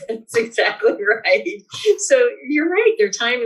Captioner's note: laughs